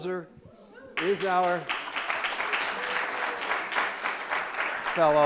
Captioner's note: crowd applauds